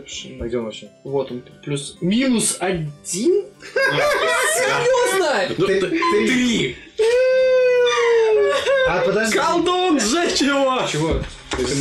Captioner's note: panicks